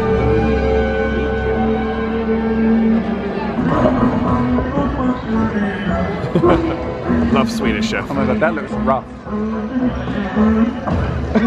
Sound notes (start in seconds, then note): 4.1 upbeat music; 6.0 laughs